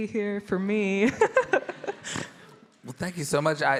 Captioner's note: giggling